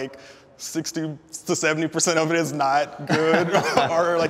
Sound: laughs

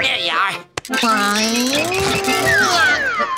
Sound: groaning

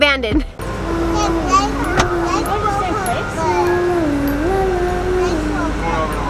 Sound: child vocalizing eerily

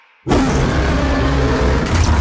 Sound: Kong roars

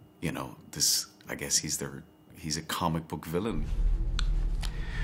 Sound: none

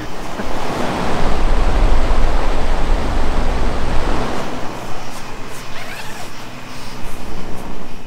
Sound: fan blowing

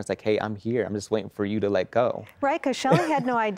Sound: laughing

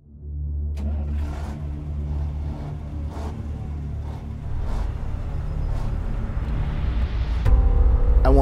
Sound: truck starting engine

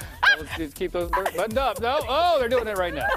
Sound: laughter; laughter

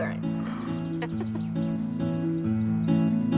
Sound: laughing

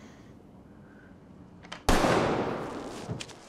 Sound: gunshot

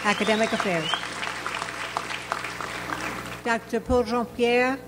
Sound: audience applauds

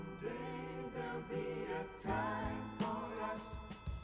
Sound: none

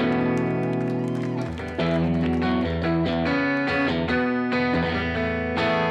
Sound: audience cheering and applauding

